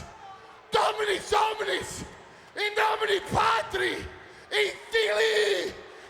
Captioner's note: speaks in foreign language